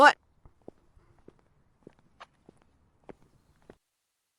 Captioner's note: footsteps approaching